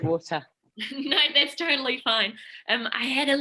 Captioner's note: laughing